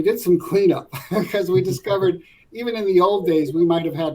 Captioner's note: laugh